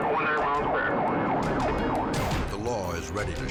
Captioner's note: sirens wailing